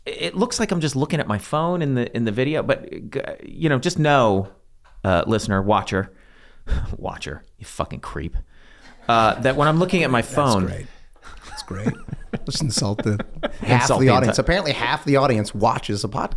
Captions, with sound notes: It looks like I'm just looking at my phone in the video but just know, listener, watcher, watcher, you fucking creep. (laughing) - Great, that's great. - That when I'm looking at my phone- - That's great. Just insult the audience. (Glenn laughing) Apparently, half the audience watches the podcast.